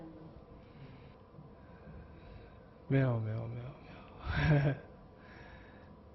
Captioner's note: laughing